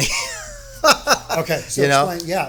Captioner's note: laughing